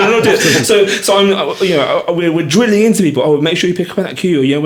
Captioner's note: laughing